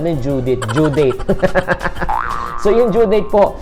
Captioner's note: laughter